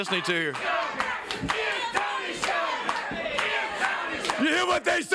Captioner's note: crowd chants "Give Tony sugar"